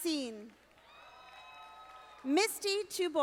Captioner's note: audience applauding